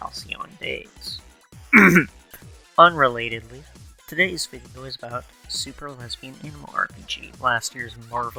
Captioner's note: ahem